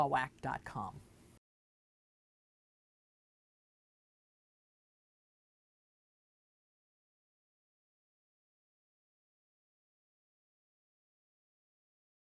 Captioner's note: no Sound Present